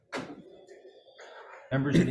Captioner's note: door closing